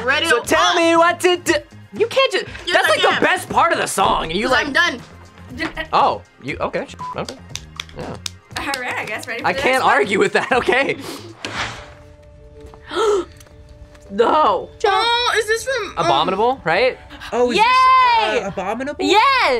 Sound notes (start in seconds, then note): 5.6 laughs; 12.8 gasps